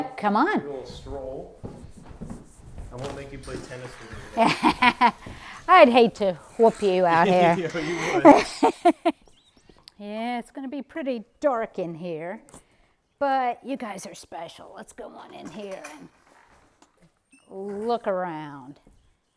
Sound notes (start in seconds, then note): 4.3 laughs